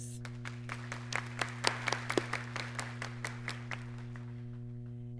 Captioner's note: audience clapping